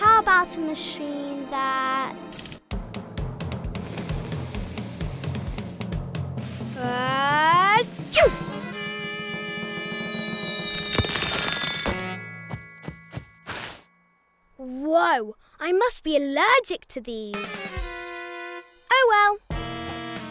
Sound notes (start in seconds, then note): 3.8 sniffs; 5.1 upbeat drumming; 8.6 tense music; 9.6 whistling; 17.7 dramatic music; 20.1 dramatic music